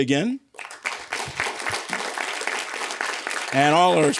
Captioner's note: applause